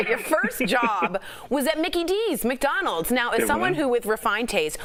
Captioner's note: laughter